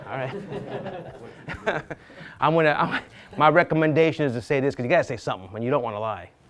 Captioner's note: laughs